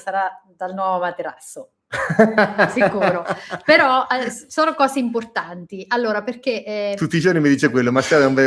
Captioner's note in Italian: risate